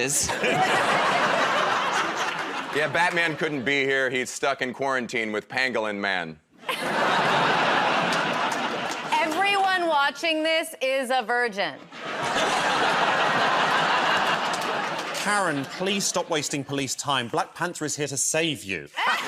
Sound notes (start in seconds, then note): 0.2 laughter; 6.6 laughter; 11.8 laughter